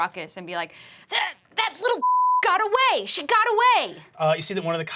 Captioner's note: beep